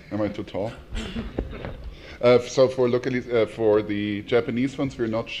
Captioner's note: laugh